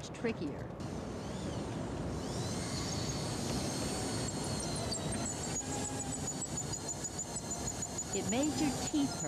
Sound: drilling

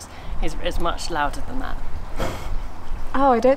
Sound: laughs

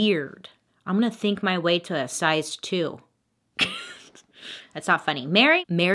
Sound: laughs

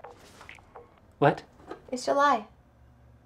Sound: music Stops

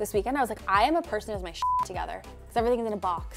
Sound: beep

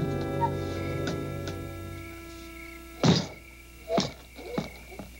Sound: crickets chirping

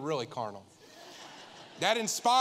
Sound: congregation laughing

